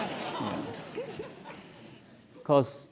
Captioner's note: laugh